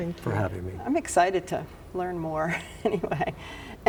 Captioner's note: chuckling